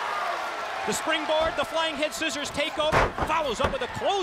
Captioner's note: crowd cheering